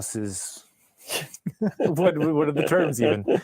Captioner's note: both laugh